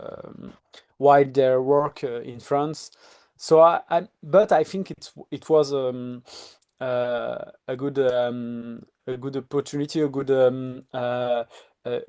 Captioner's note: sniffs